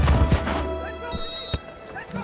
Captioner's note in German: Trillerpfiff; Jemand ruft etwas